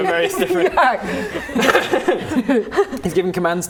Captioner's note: laughing